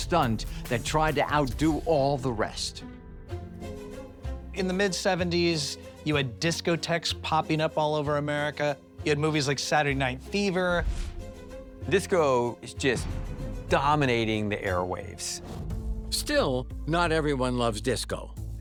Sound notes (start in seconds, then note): 3.0 intriguing fanfare music; 10.5 intriguing fanfare music; 10.8 air whooshing